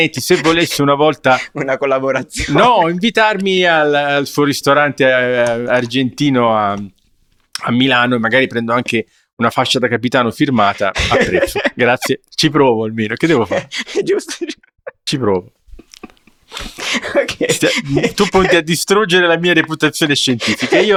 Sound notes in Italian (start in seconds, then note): 10.7 risate; 15.7 sbuffare; 20.1 risate